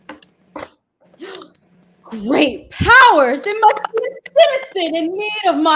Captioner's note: gasps